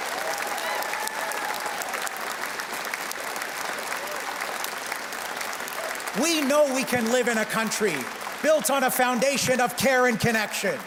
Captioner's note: cheers and Applause